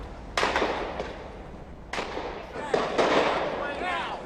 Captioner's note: gunshots